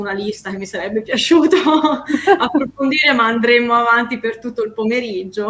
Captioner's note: laughs